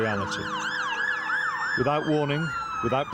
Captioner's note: sirens blaring